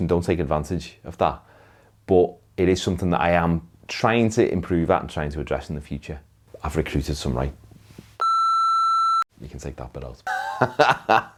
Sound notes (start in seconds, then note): 8.2 beep; 10.2 laughs